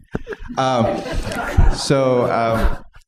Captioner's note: laughter